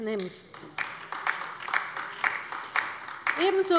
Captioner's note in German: Beifall bei der LINKEN